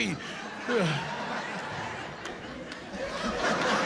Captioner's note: sighs